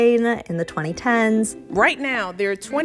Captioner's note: soundbite of archived recording